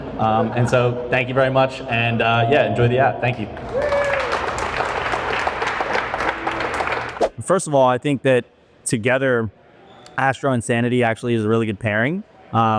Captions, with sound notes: And so thank you very much. And yeah, enjoy the app. Thank you. [APPLAUSE] First of all, I think that together, Astro and Sanity actually is a really good pairing.